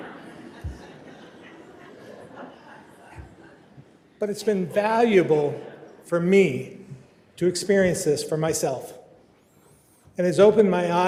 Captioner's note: laughter